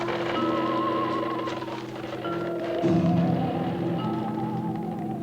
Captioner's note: cart wheels creaking